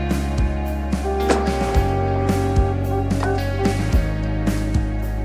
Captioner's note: horn blowing